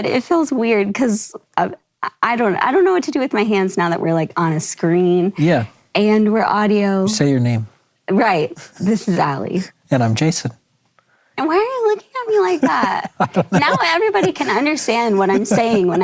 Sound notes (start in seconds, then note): 12.1 laughs